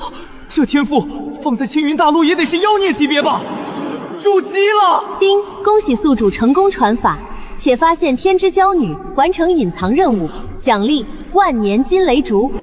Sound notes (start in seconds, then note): 6.2 ding!